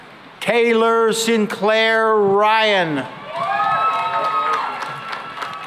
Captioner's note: cheering and applause